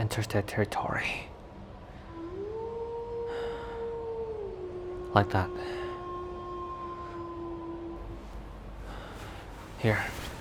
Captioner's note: wolf howls